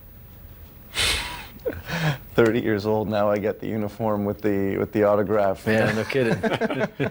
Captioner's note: laughter